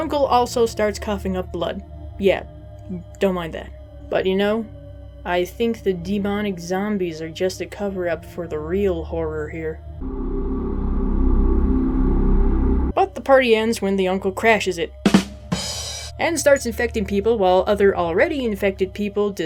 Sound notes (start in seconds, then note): 9.9 evil droning; 15.0 ba dum tss